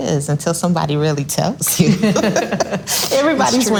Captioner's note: all laughs loudly